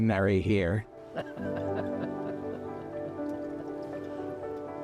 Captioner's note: chuckling